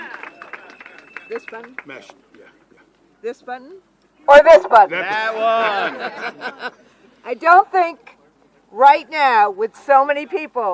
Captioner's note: cheering